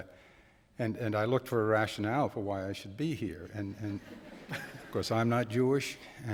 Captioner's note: laughter